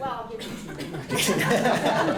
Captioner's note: laughing